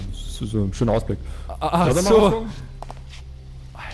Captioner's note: anxious mumbling